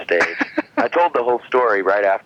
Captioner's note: laughing